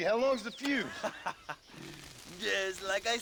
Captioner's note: laughs